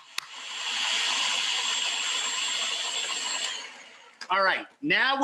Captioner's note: food processor whirring; clapping